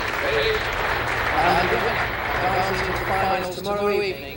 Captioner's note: crowd applauds